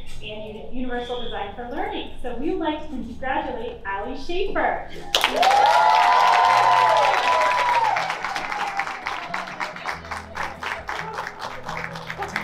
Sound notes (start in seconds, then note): 5.0 crowd clapping and cheering